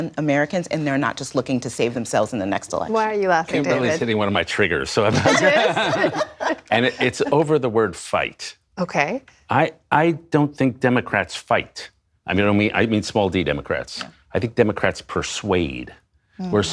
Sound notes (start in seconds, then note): 5.0 laughter